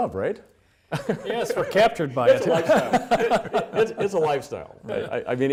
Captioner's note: laughing